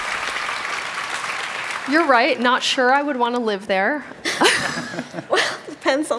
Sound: cheers and applause

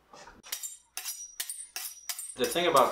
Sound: sound of knives sharpening

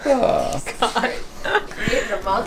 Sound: laughs

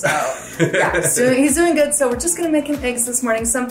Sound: laughing

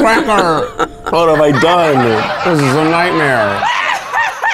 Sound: laughing

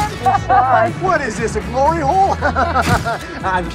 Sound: laughter; laughs

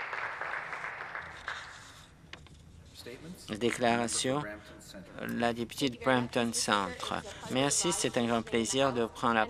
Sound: some applause

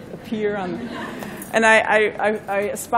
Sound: laughter

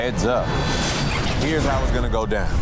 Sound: dramatic music; scene whooshing

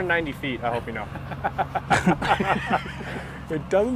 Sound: laughter

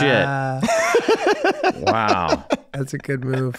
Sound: Rob laughs

